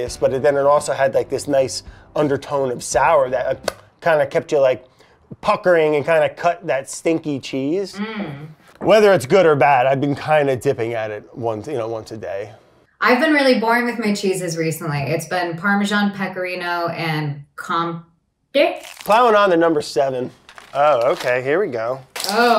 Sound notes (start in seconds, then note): 3.5 smacks lips